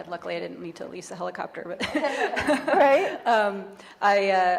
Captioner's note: chuckles